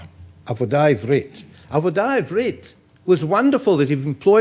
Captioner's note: speaking in foreign language